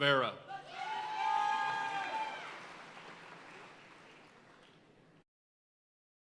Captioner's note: audience cheering and applauding